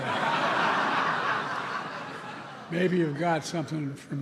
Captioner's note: laughter